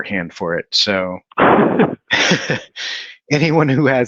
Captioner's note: laughing